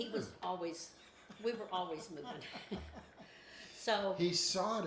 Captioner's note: laughing